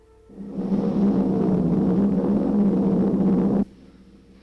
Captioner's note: engine rumbling